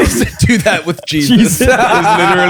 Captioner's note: laughter